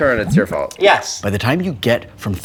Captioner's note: water bubbling